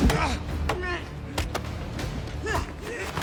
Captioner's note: grunting